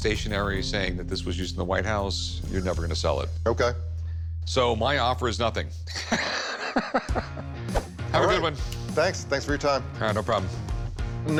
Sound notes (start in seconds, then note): 5.9 laughs